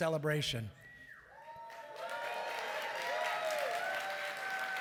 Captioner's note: applause